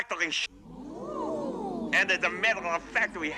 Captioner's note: Зрители ахают